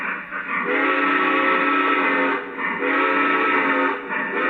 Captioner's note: steam whistle blows